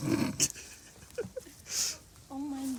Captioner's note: laughter